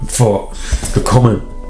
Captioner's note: sigh